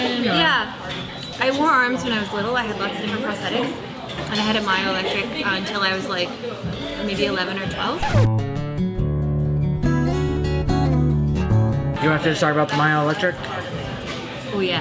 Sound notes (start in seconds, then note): 7.9 record scratching; 8.0 pensive guitar music